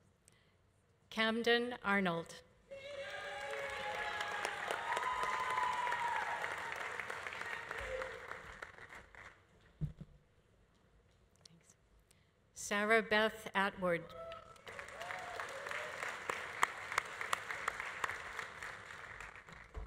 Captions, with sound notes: Camden Arnold. (audience applauding) (audience cheering) Thanks. Sarah Beth Atwood. (audience applauding) (audience cheering)